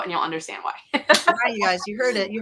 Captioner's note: laughs